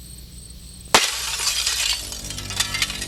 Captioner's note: glass shatters; ominous music